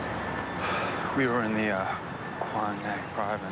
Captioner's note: sighs